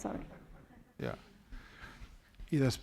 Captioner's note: speaking spanish